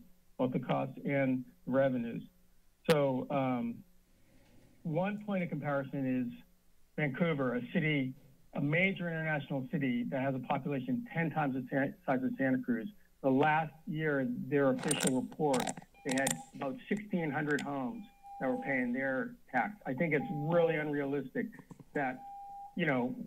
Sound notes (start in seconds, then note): 14.7 mic noises